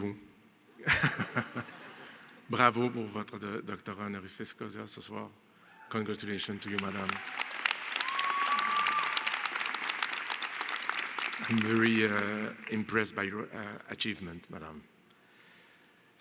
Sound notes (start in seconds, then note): 0.8 Rires; 6.5 Applaudissements